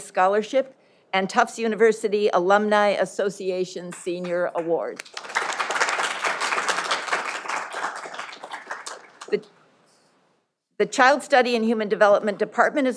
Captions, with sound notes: Scholarship and Tufts University Alumni Association Senior Award. (audience applauding) The child study and human development department